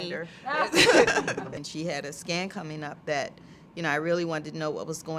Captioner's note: laugh